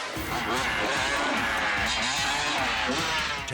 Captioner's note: bikes buzzing; dramatic air whoosh